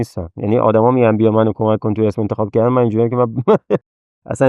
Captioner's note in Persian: خنده